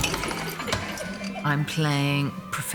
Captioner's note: students giggling